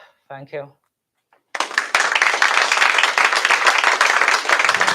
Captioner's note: applause